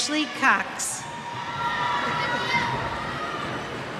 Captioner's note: cheers